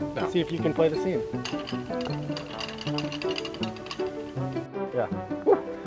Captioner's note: sign clanking; fence bouncing